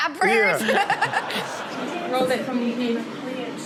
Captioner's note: audience laughs